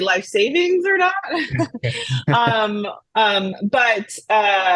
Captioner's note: both laugh